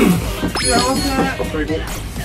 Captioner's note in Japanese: 効果音 ✨キュピーン✨